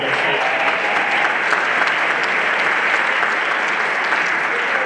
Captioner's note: everyone applauding